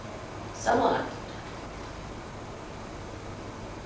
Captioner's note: hindi